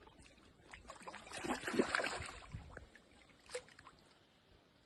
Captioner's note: water sloshing